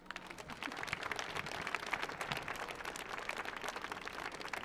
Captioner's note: audience applauds